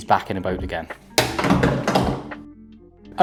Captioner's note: sound of thigh grip being thrown to floor